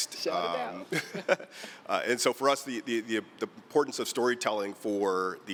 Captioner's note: laughter